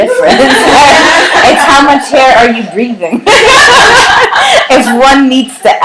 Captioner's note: laughter